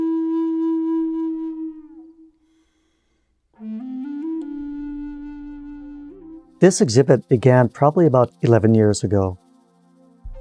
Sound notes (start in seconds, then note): 6.6 insects fluttering distantly; 10.2 soft dreamy music